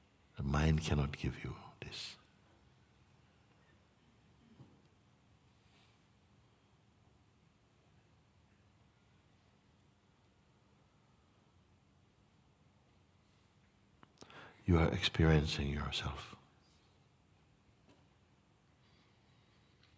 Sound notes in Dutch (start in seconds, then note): 6.5 stilte